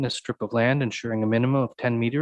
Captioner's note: none